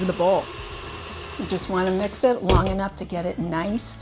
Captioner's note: mixer whirring